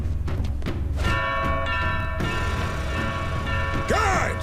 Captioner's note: ringing